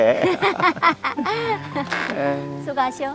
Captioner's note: both laughing